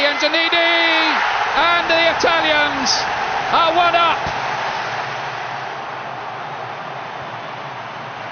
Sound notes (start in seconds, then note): 4.6 crowd cheering